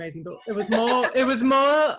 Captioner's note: laughs